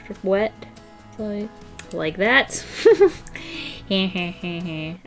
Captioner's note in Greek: Γέλια